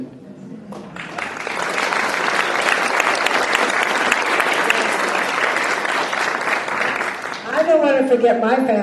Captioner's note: applause